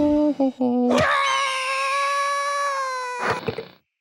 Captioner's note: Derp hums to himself; Derp screams!; eagle screeches